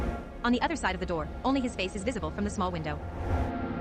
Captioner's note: wind howls